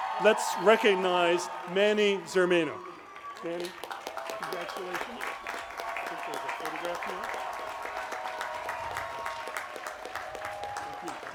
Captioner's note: applause